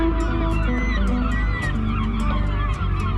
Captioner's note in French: Sons des oiseaux de mer